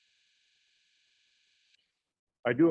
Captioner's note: A pause